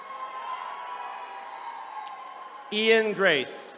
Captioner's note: attendees cheering